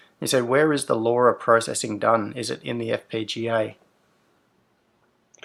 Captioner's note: none